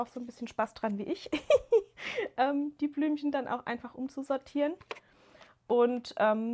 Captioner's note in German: gelächter